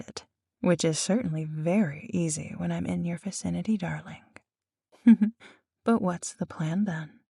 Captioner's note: light Laugh